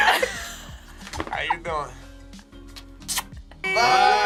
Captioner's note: group laughs; kisses